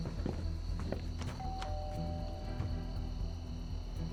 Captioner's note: footsteps; rings doorbell